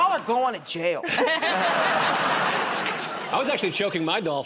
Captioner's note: laughter